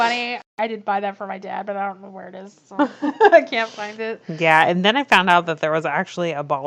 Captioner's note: laughs; laughs